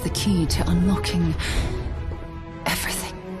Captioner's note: female narrator gasps